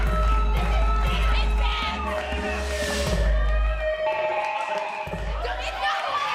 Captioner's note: crowd cheering